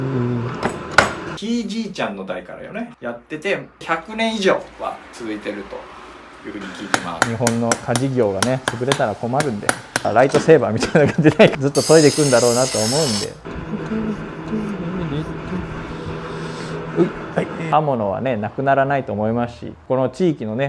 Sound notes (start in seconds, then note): 13.7 humming 🎶; 13.7 laugh